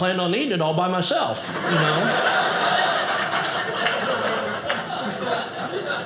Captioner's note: audience laughing